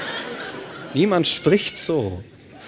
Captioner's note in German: Lachen